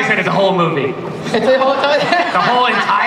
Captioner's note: laughs